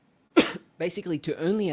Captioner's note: coughs